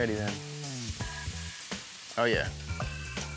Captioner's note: sizzling sound